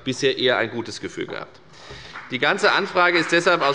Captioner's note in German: Beifall bei der FDP